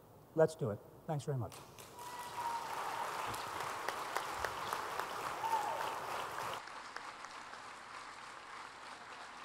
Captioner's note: applause